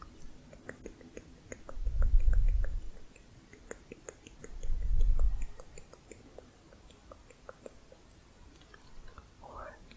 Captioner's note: tongue clicking